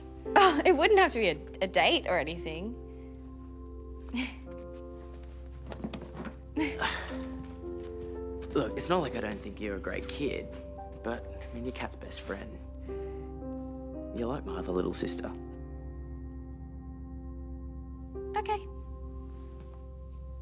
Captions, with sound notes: Oh, it wouldn't have to be a-a date or anything. -[chuckles] -[exhales] Look, it's not like I don't think you're a great kid. But, I mean, you're Kat's best friend. You're like my other little sister. OK.